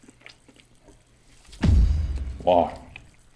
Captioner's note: thud